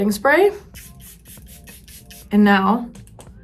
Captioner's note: gentle upbeat music; setting spray spritzing